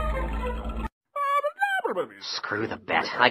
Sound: speaks in alien language

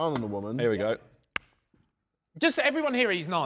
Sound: claps hands

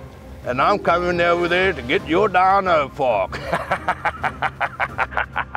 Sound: laughs

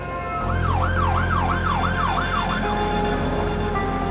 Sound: intriguing music; siren blaring; intriguing music

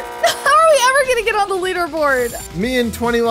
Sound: buzzer blaring; laughing

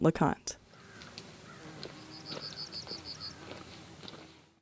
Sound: birds chirping

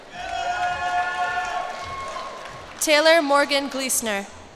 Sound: cheers and applause

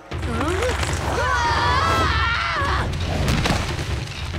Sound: screaming

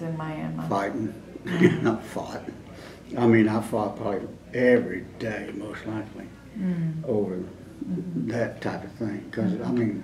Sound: laughs

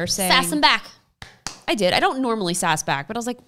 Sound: claps

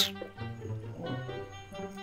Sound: kisses lips

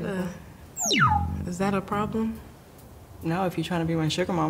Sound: button beeps

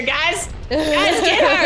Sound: laugh

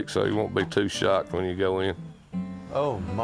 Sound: bird chirping

